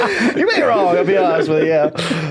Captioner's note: laughing